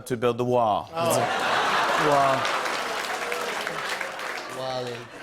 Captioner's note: laughter and applause